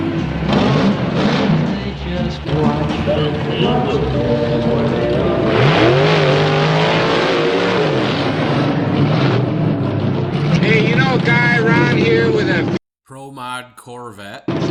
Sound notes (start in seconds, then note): 0.1 rev's Engine; 5.3 louder engine Rev